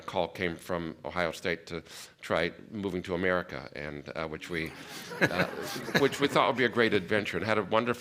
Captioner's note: laughter